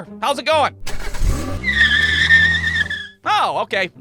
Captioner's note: engine starts, tires squeal